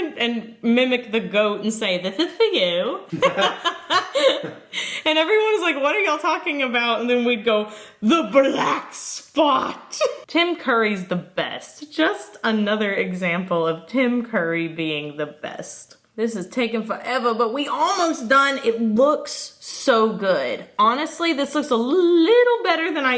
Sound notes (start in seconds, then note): 3.1 both laugh